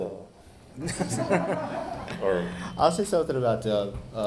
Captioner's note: audience laughing